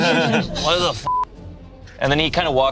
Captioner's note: group laughs; beep